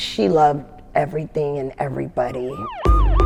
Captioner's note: sirens blaring